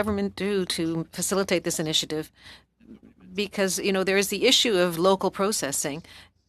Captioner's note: speaking French